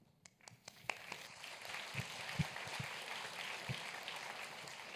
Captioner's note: applause